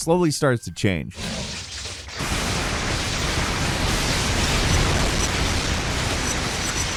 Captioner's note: exploding sound effect; lightning rumbles